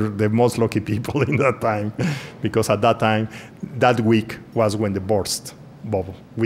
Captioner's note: laughs